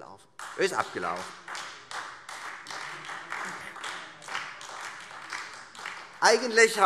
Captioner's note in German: Beifall Freie Demokraten und vereinzelt AfD